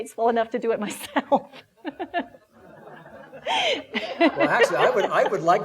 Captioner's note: laughing